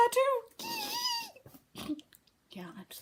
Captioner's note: squealing